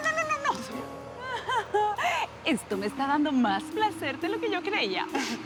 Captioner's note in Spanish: Risa nerviosa